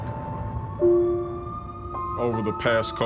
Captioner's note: police siren